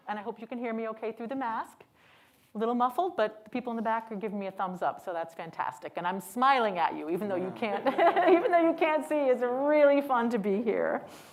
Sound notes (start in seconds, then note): 7.4 laughs; 7.8 audience laughing